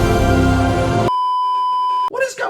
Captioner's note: beeeeeeeeeeeep